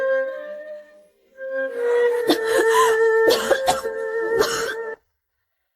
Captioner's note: cough cough cough cough